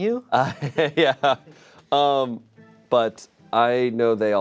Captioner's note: chuckles